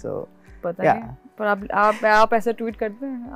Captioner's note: laughs